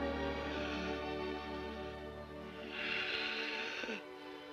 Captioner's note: Billy gasping